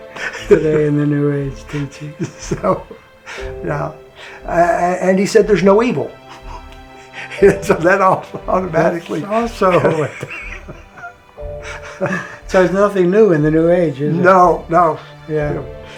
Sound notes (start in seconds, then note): 9.6 laughs